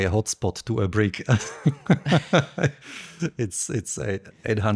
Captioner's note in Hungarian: nevetés